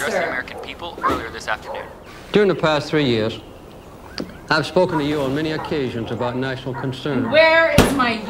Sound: tv noise

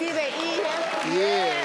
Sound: crowd clapping

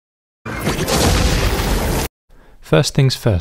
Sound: thunder

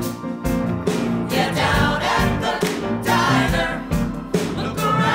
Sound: all sing; clap

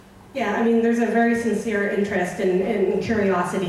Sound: voiceover

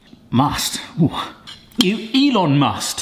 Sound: groans

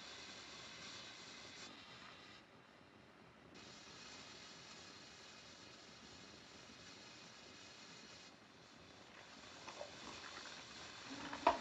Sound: machine hissing

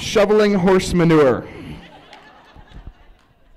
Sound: laughs

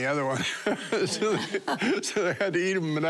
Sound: laughing

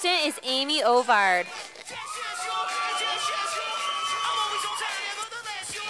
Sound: sound of cheers from audience

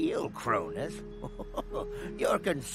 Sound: chuckling

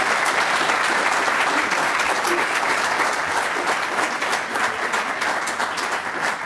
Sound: applause

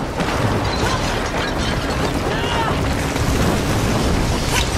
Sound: woman yells

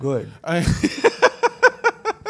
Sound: laughs

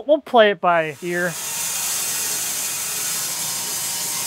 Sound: saw whirs

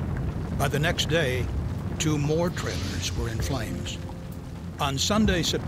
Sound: sound of flames raging

